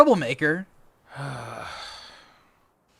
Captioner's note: mac sighs